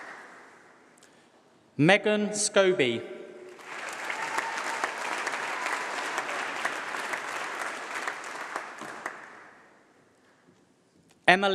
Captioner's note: applause